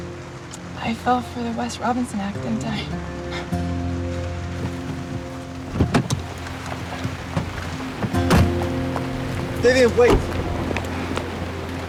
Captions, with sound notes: I fell for the Wes Robinson act, didn't I? [door latch clicks] Vivian, wait!